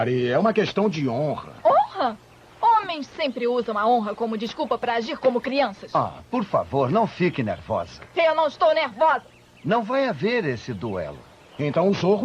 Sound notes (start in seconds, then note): none